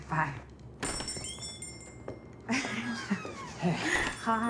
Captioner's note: bell jingling